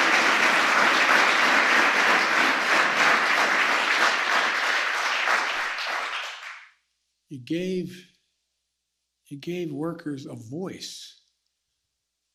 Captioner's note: applause